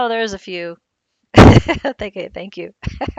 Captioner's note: laughs lightly